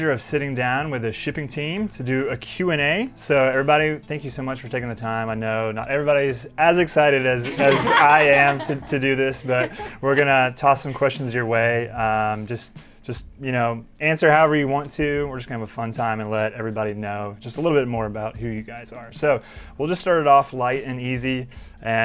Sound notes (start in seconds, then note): 7.4 all laugh